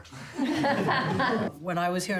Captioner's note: laughter